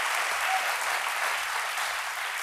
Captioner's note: applause